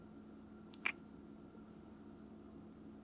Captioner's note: kiss